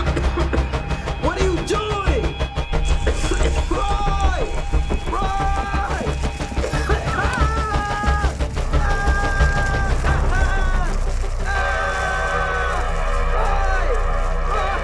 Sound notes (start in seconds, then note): 4.9 fire raging; 6.6 Andrew coughing and screaming